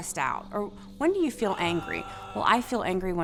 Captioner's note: gasps; growls